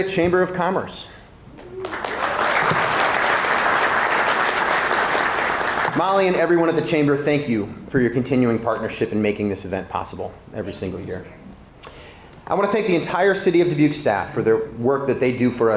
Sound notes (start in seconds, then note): 1.6 audience applauding